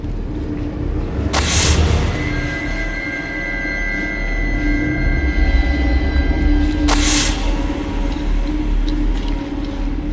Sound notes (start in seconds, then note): 0.1 suspenseful music; 1.4 creature hissing